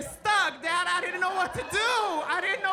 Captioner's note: audience laughing